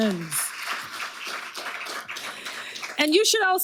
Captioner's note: audience applauding